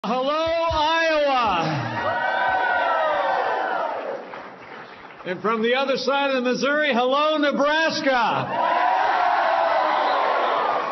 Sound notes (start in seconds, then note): 3.3 applause; 9.5 applause